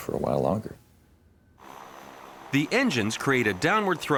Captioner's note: engine humming